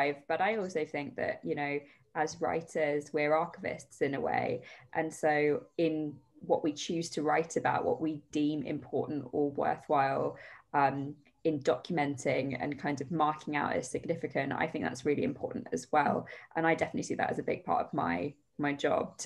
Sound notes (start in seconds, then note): none